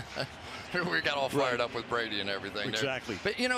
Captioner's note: laughs